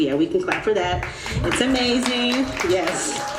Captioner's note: audience applauding